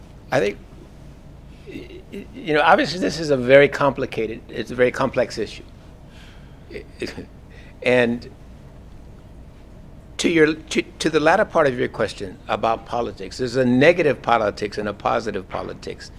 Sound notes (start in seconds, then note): 5.2 laugh